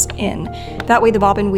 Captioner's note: winder clicks